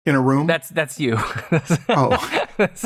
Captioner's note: laughter